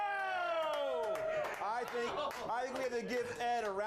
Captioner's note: audience cheering